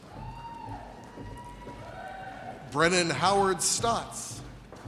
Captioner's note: audience cheers